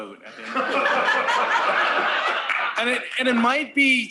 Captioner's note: laughter